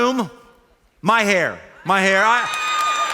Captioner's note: cheers and applause